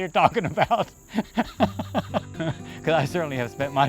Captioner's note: laughing